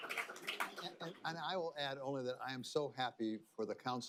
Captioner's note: applause